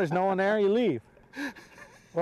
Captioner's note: laughter